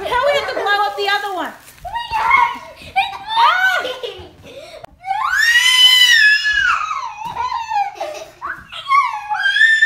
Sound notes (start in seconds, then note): 5.4 shrieking